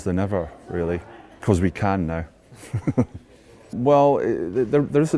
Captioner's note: laughs